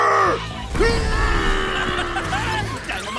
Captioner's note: very loud flexing!!!